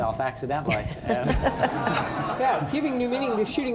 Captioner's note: audience laughing